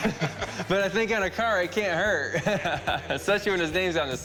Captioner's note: all laugh